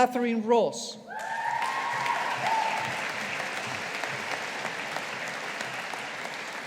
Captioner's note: audience applauding